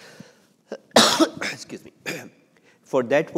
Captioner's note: coughs